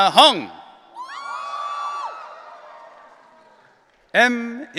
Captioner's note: audience cheering